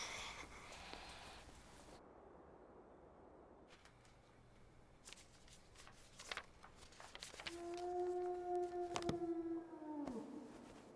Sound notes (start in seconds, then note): 0.2 chuckles to himself; 7.5 wolf howling